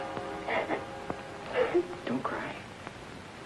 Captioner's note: Mary sobbing